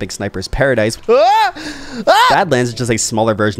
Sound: yelling

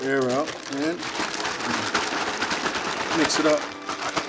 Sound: liquid sloshing

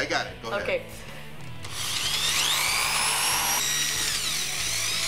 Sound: power drill runs

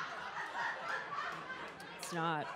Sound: audience laughs

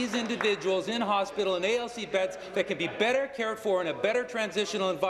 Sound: applause

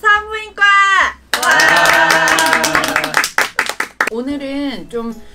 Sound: applause

